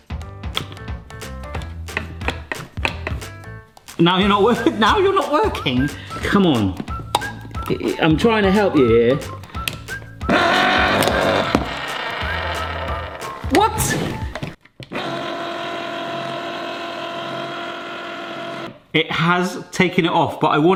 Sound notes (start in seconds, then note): 0.1 upbeat music; 0.5 can opening clicking; 9.3 can opener whirring; 10.2 upbeat music; 14.8 can opener whirring